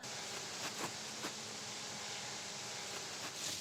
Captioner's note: drone buzzes distantly